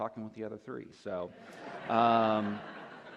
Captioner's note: laughter